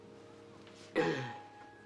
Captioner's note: clears throat